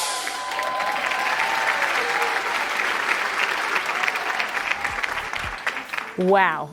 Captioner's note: cheers and applause